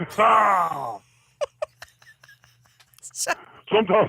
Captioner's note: laughs